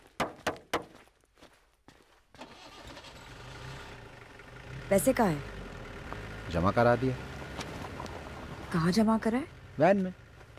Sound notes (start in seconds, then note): 0.2 Knocks; 2.7 Engine roars